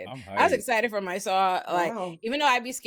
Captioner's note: none